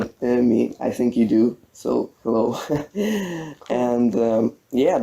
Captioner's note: laughs